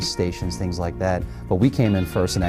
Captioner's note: none